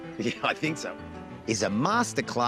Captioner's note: chuckles